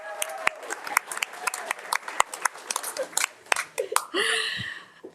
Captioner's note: audience applauding